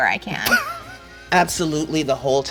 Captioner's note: muffled laughter